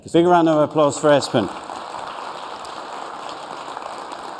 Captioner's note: applause